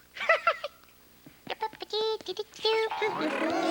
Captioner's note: humming eme